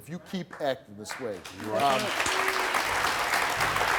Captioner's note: applause